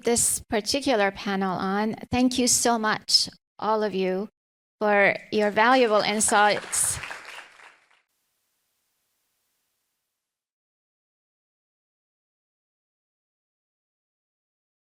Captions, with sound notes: this particular panel on. Thank you so much all of you for your valuable insights. (audience applause)